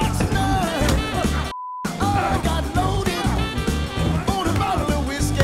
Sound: upbeat music; beep

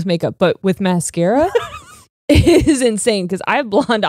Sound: chuckles

